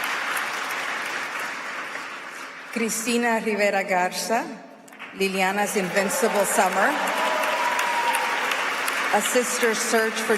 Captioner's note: applause